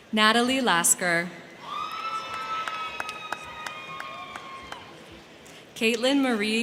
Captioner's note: crowd cheering; crowd clapping